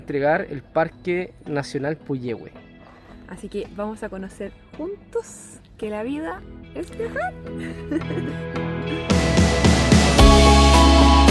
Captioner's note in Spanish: risas